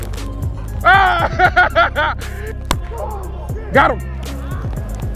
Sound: laughs

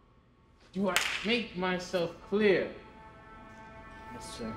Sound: slap

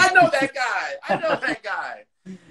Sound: laughs

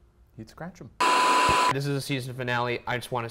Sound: static crackles

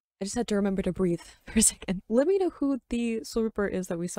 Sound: none

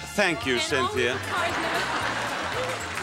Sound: audience laughs

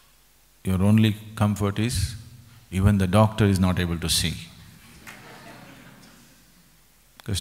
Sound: laughter

